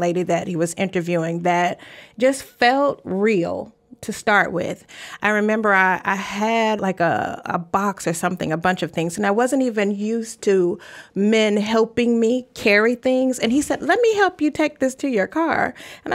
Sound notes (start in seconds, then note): none